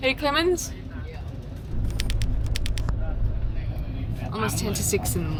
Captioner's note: typewriter clacking